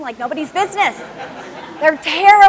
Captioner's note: laughter